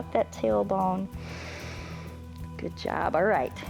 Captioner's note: inhales